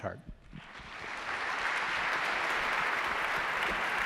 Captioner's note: audience applause